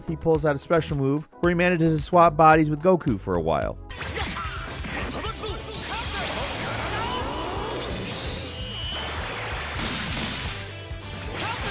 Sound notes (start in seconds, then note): 4.4 fighter shouting in Japanese; 9.5 heroic music